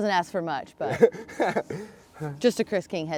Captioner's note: laughs